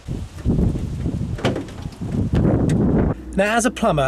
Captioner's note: wind blowing